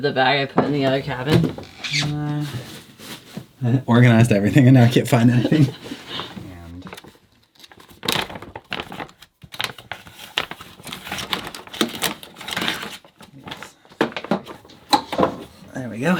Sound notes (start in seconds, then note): 5.9 laughing; 10.1 rustling